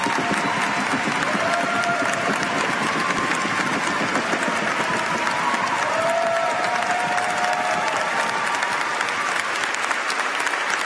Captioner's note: applause